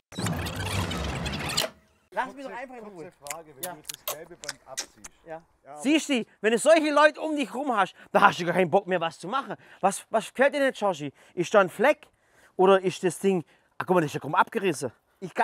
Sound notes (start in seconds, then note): 0.1 Zurückspulgeräusche; 3.7 Genüssliche Laute